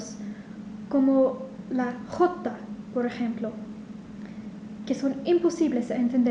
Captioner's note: in Spanish